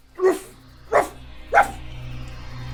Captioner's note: barking